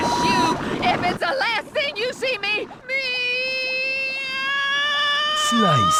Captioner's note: dying Noises